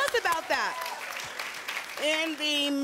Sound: applause and cheering

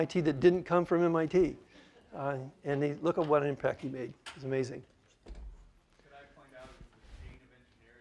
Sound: laughter

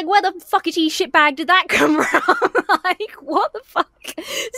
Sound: laughs

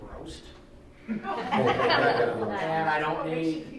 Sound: laughing

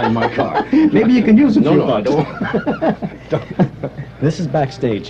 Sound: laughter; laughter

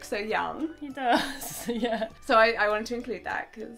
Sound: chuckling

